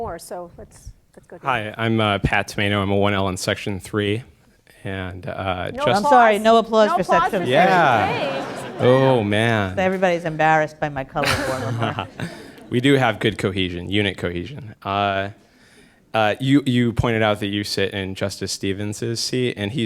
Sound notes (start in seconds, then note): 6.9 laughter